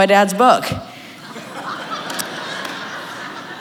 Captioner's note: laughter